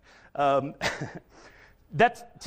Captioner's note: chuckles